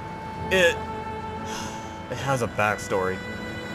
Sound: sigh

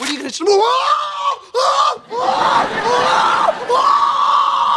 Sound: screaming

